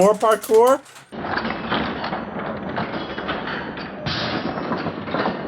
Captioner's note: laughs; marbles rolling in slow-motion